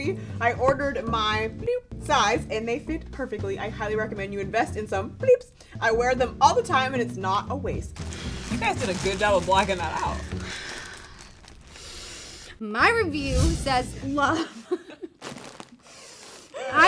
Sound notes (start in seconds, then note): 10.2 sighing; 14.4 both laughing